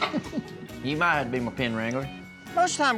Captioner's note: everyone chuckles